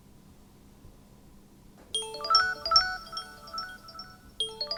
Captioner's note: line ringing